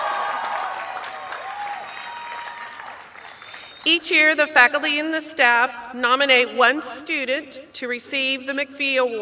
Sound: applause

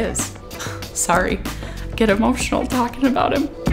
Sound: sighs

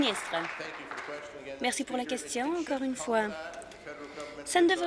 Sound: applause

